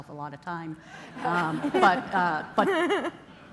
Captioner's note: laughter